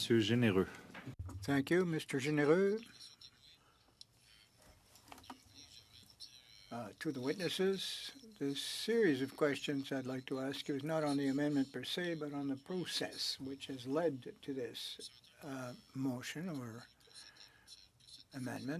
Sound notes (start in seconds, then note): 7.4 speaking French